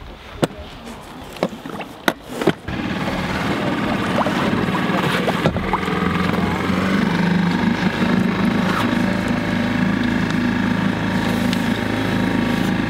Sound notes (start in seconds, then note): 3.0 boat engine whirring